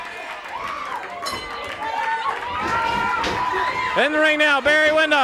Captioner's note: audience cheering and clapping; bell rings